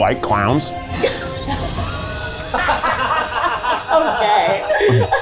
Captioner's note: laughs